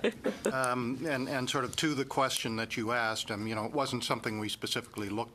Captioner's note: laughter